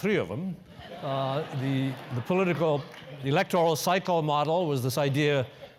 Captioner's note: laugh